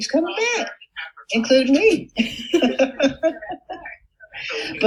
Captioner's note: chuckles